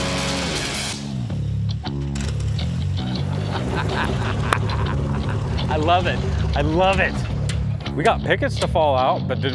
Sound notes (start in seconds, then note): 2.2 airboat motor stops; 3.0 laughs